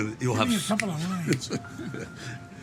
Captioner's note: Sylvester snapping